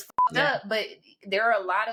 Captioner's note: beep